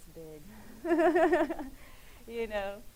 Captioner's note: laughing